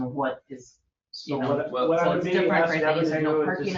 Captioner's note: overlapping chatter